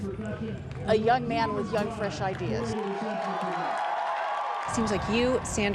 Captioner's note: cheering